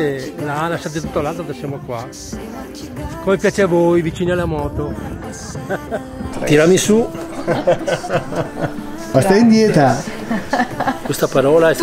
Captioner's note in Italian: Risate